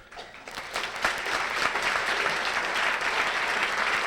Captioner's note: applause